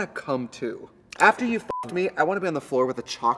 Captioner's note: beep